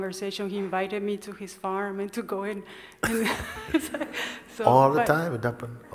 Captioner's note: laughter